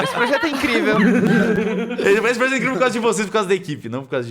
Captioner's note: laughing